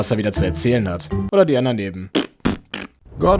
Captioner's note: farting with tongue